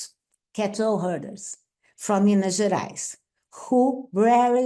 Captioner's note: speaks Portuguese